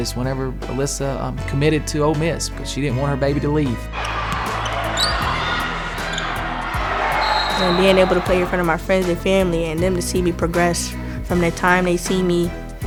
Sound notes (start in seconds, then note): 4.0 shoes squeaking on court; 6.2 cheers